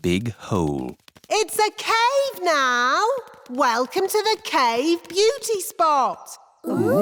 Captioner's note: echoing